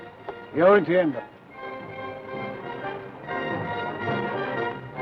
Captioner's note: speaks foreign language